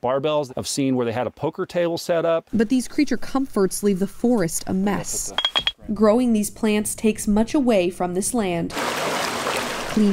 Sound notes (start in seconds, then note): 5.0 loud dinging; 8.7 water rushing